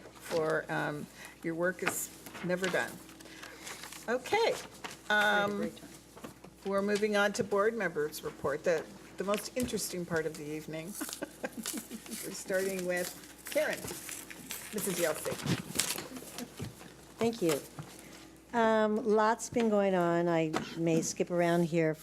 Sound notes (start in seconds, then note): 10.9 laughs